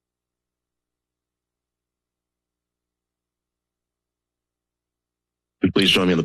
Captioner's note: silence